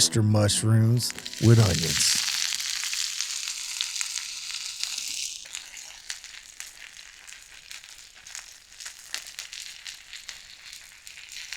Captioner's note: sizzling